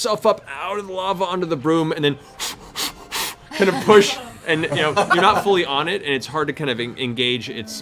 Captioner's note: blowing